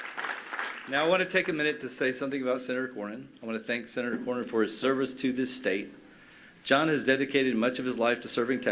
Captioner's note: cheers and applause